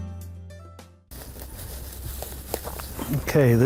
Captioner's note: grass rustling